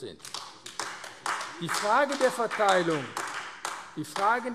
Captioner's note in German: Beifall AfD